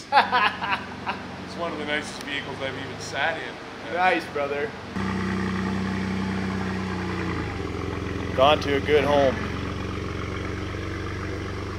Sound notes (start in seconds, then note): 0.0 laughter; 4.9 engine revving